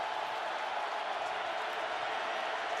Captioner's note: crowd cheering